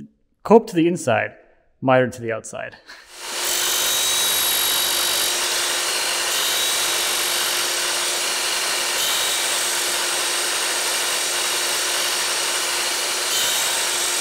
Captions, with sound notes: Coped to the inside, mitered to the outside. (saw whirring)